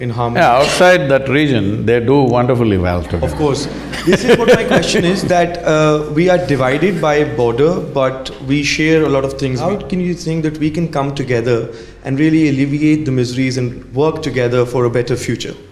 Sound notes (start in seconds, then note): 3.0 laughs